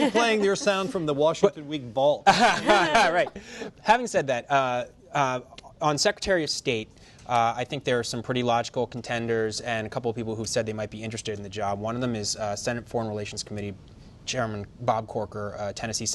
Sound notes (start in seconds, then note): 2.3 laughing